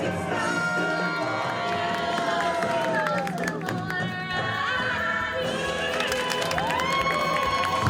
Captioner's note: audience applauding